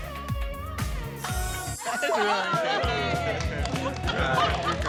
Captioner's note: cheering